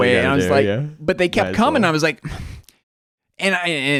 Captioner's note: huffs